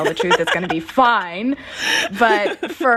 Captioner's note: laughter